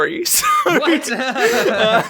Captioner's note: both Laugh